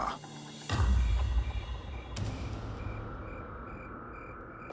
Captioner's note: crickets chirping